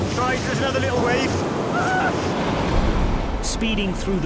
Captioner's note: victim exclaims